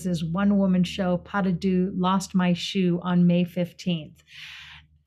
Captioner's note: speaking foreign language